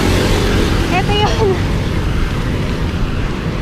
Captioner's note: laughs